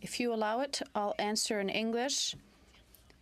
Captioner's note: speaking French